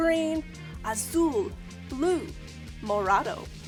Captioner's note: speaking in Spanish